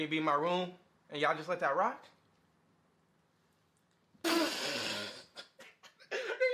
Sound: laughs

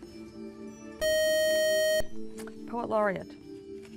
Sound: buzzer

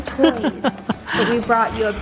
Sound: laughing

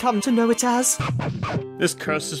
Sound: record scratch

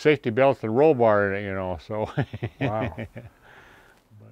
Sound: chuckles

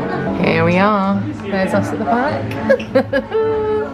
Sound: laughs

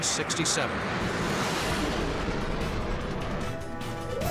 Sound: jet engine noises

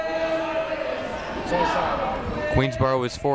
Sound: people talking in the crowd

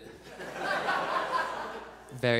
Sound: audience laughs

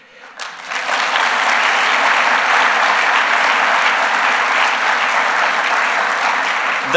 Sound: applause

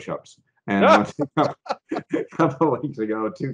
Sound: both laughing

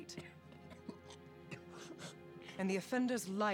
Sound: coughs, gasps

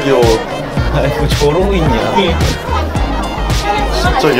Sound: laughing

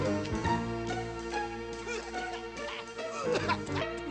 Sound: coughs and chokes

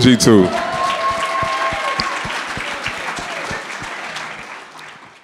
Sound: audience cheering

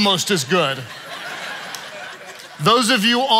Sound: congregation laughing

